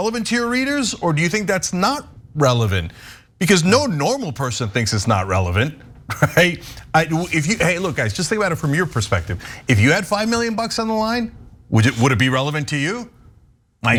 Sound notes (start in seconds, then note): 6.1 laugh